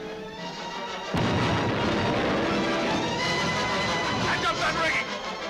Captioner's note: cannons firing